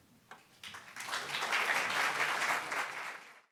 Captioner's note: audience clapping